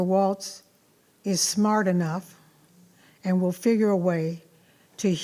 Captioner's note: none